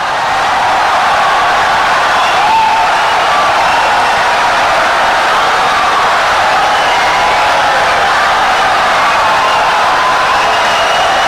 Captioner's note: wild applause and cheering for 17 seconds